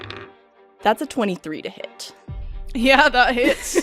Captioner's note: dice clacks